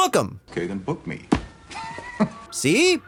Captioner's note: laughs